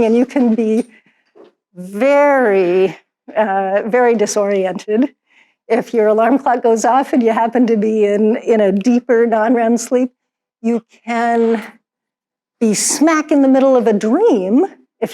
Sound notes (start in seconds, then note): none